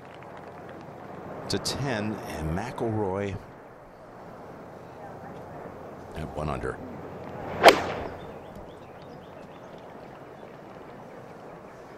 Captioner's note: applause